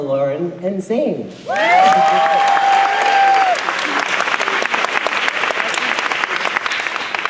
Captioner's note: clapping